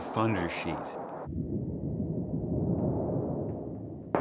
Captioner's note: rumbling; low rumbling